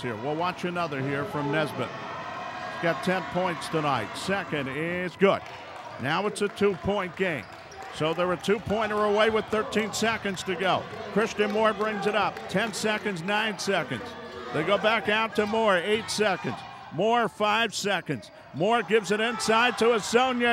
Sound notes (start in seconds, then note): 2.4 yelling